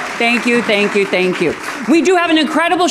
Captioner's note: audience clapping